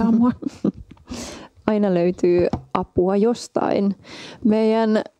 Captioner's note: giggles